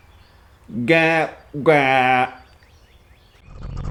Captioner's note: mumbles